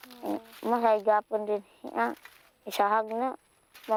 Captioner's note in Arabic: الصوت المنطوق باللغة الفلبينية